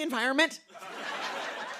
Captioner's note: laughter